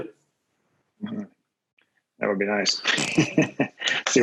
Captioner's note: laughs